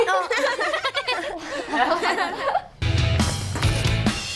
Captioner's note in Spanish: risas